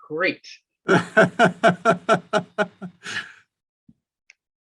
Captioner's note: laughs